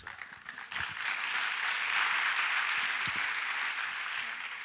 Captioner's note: audience applauds